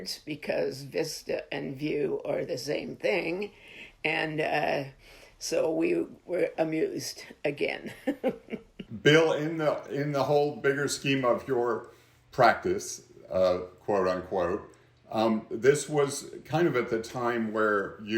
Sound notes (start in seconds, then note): 7.8 chuckles